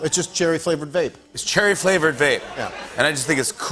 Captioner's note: laughter